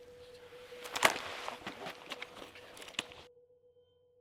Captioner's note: body thuds